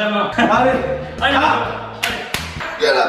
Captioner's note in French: rire